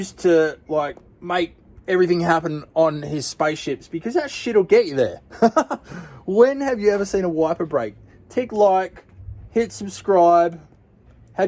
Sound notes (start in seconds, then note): 5.3 chuckling